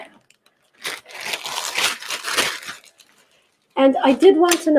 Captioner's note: paper shuttering sound